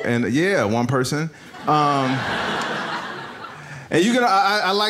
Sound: audience laughs

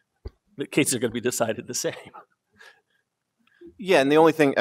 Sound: laughs

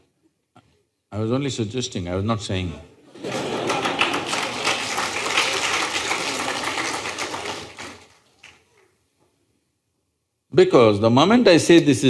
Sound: laughter/Applause

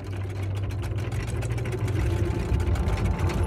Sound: rattling sound effects

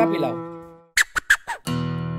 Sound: beatbox scratching

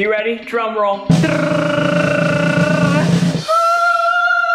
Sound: imitates drum rolling; drum rolling; yells

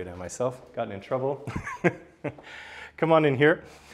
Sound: soft chuckle

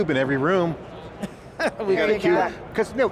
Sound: laughs

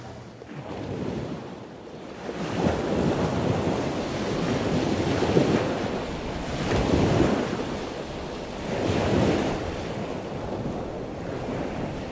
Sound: ocean waves crashing

